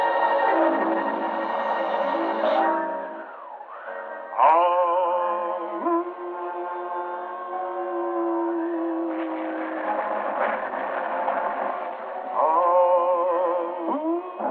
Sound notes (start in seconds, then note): 4.2 howling; 12.3 howling continues